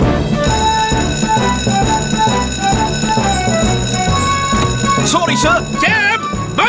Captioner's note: heroic Music; alarm Blares